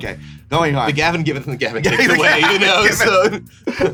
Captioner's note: laughs